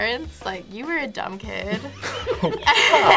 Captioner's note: both laugh